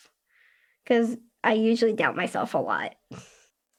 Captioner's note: giggles